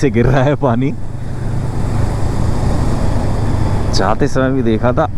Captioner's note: bike thrum